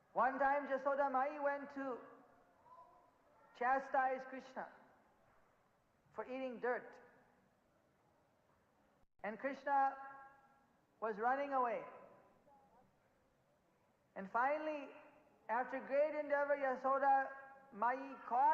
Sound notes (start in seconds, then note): 6.4 in Hindi